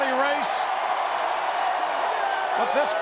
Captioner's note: crowd cheering